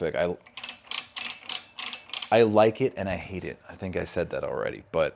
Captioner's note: dial dings